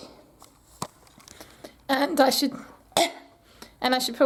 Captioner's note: cough